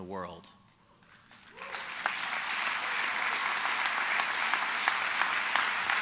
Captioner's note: applause